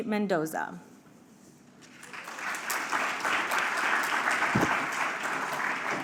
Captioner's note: applause